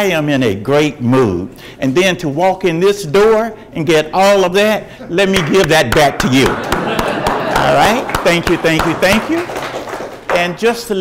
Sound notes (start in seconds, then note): 6.2 audience laughs; 7.1 clapping hands